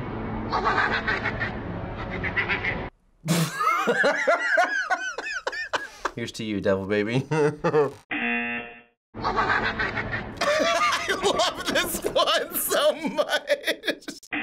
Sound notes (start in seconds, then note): 0.3 boy 2 laughs aggressively; 3.4 laughs; 8.1 buzzer; 9.2 boy 2 laughs aggressively; 9.2 laughs